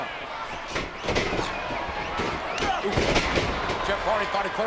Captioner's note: applause